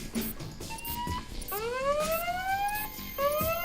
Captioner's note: sound of loud alarm